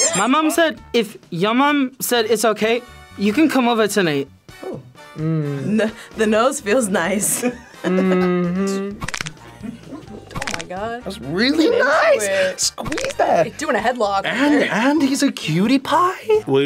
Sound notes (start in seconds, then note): 9.0 bones cracking